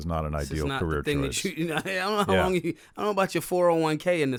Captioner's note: laughing